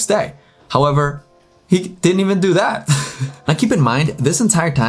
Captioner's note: laughs